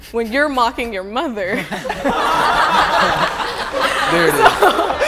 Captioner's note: group laughing